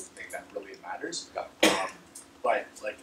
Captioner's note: cough